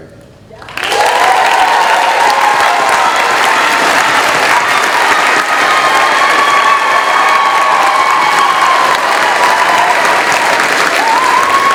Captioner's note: cheering